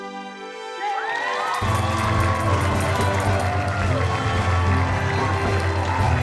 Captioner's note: cheering and applause